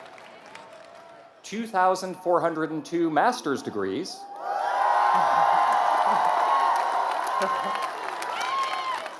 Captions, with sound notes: 2,402 master's degrees. [CHEERING AND APPLAUSE]